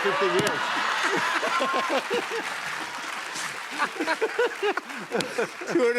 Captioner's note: laughter